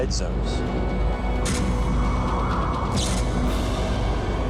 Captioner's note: wind howling